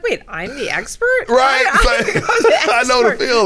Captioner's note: both laughing